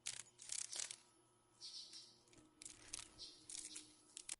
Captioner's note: sounds of a dragon fly